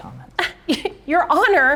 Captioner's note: scoffing